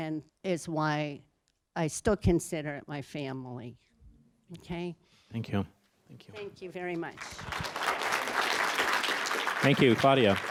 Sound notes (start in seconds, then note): 7.1 applause